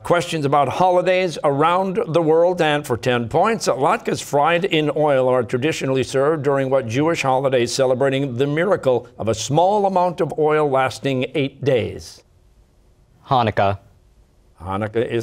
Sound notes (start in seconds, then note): none